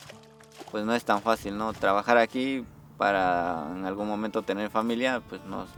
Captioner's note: speaks in a foreign language